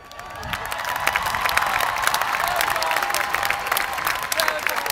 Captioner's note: chuckles; applause